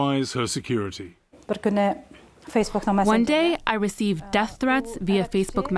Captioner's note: through translator